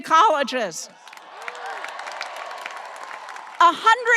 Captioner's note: audience applauding and cheering